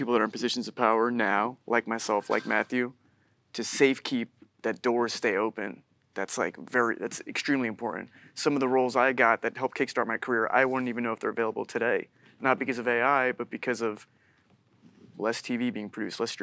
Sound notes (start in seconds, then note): none